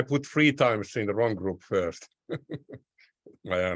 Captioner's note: chuckles